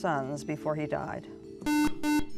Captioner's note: buzzer